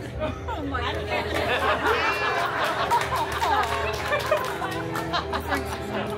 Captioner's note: guests laughing